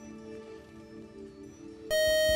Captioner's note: beep